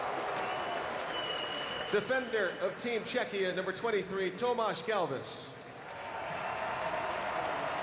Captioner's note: cheering